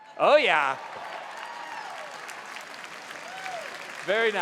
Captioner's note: applause